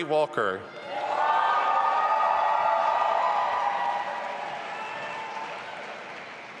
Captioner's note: audience applauding and cheering